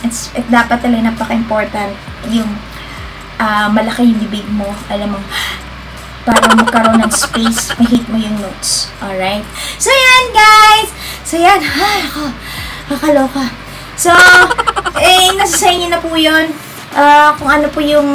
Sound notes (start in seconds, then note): 11.1 panting